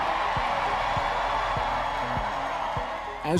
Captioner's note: cheering